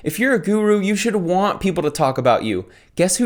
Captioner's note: none